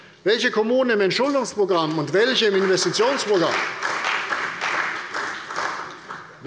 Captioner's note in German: Beifall bei der CDU